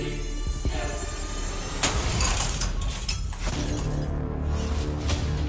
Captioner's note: glass cracking